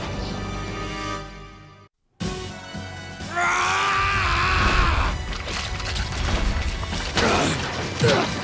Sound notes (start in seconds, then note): 2.2 dramatic music; 3.2 prime yelling